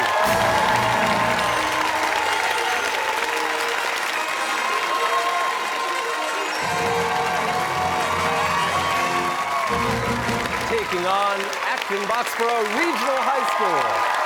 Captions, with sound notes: (fanfare) (cheers and applause) ...taking on Acton-Boxborough Regional High School!